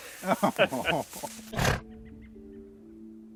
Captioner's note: chuckles; animal grunts; pleasant ambient music